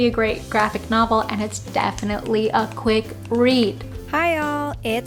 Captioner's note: snapping fingers